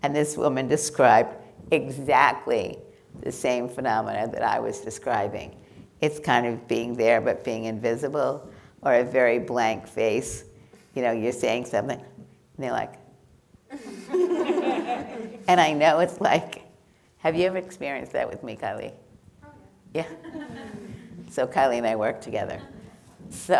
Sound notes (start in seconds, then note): 13.7 people laughing